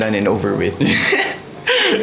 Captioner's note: laughs